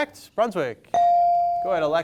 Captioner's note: bell sounding